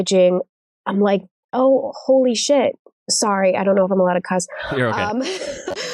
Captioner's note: laughs